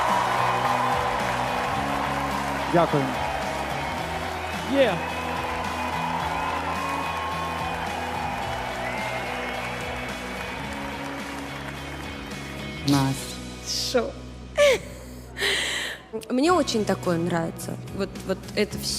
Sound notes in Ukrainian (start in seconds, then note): 8.3 оплески